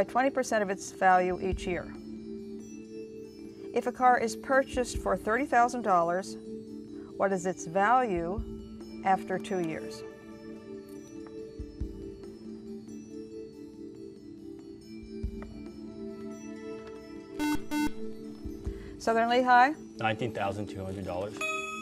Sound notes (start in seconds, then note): 9.9 ethereal music; 17.4 buzzer